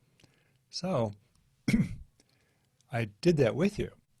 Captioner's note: clears throat